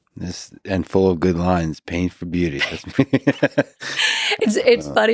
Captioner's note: laughs